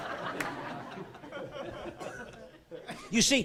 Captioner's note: laughing